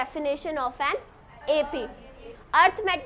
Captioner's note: students talking